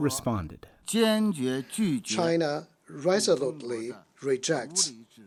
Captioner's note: through translator